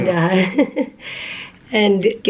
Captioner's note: chuckles